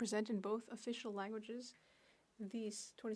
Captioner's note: speaking French